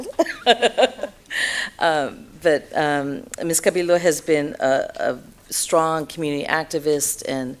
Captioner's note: laughs